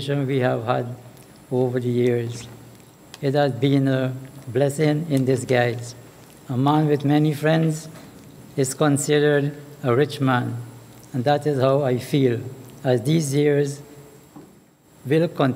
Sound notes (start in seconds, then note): none